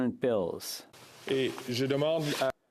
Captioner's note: speaking French